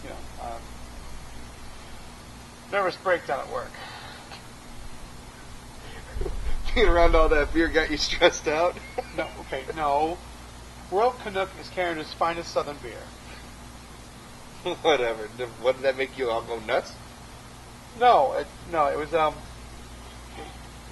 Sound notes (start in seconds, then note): 4.3 giggles; 8.7 laughs